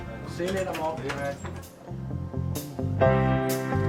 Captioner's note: none